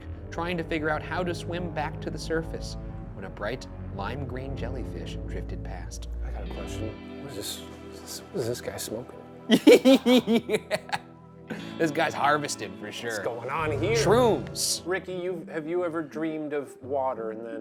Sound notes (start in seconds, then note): 9.5 laughs